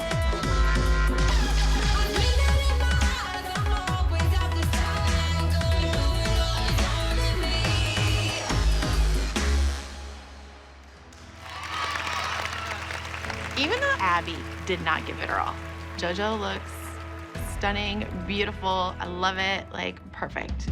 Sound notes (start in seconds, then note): 11.3 cheering